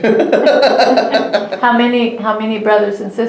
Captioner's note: laughs